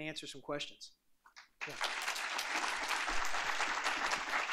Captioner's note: applause